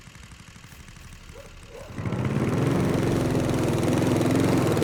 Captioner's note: engine continues humming